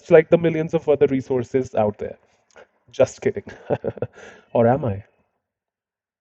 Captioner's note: fake laugh